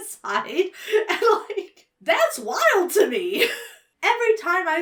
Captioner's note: chuckles